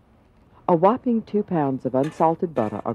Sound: voiceover

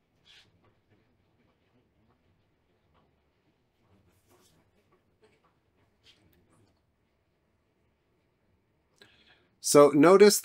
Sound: silence

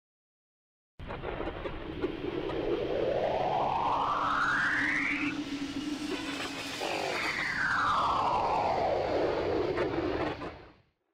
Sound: space sounds

